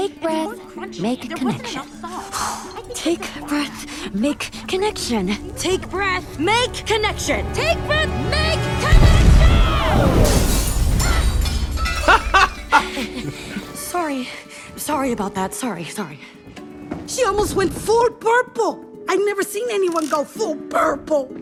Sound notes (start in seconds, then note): 11.0 laughs